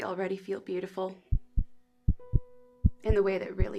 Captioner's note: heart beats